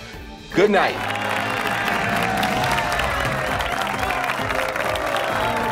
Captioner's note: audience cheers and applauds